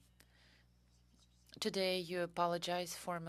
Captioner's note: speaking french